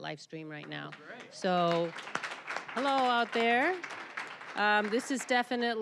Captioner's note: applause